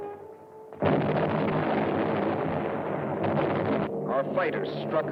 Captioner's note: explosions